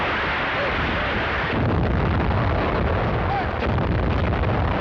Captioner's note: cannons firing